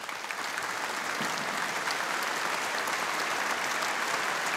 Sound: audience applauding

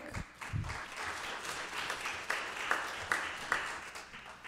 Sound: audience applauding

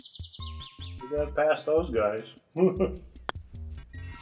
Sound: chuckles

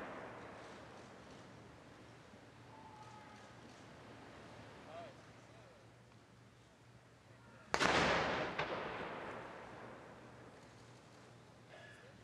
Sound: artillery salute

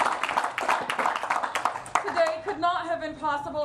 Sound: applause

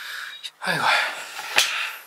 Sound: sighing

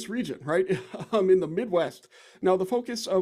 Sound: laughs

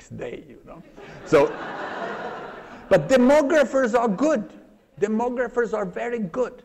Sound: laughter

